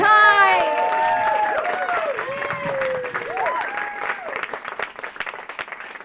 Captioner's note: audience cheering; audience clapping